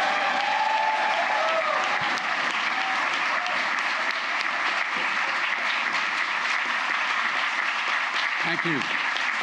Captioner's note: applause